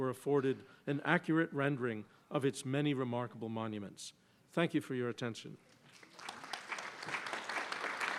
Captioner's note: applause